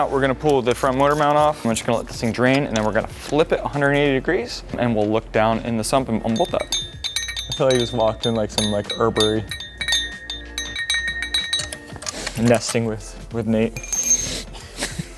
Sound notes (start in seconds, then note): 9.4 metal chimes